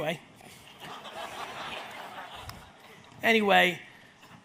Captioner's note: audience laughs